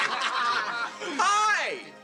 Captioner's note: all three laughing